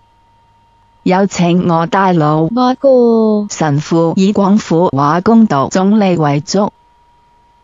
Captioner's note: Cantonese